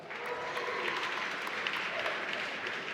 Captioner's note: applause